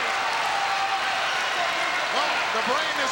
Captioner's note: crowd chattering